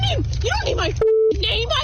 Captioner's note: beep